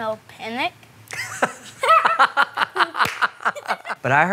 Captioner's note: laughs